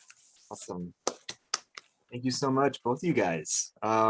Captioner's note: clapping